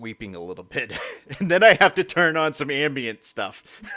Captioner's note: both laughing